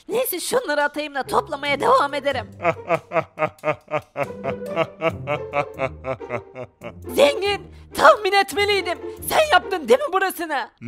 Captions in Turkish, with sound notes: Neyse, şunları atıp toplamaya devam edeceğim! (Gülme sesi) Zengin, tahmin etmeliydim! Sen, yaptın değil mi?